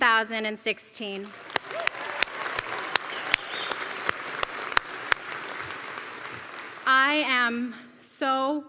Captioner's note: applause